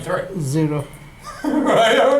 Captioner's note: voiceover; chuckles